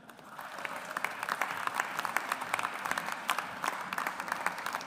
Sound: audience applauds

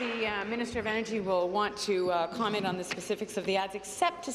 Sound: some Applause

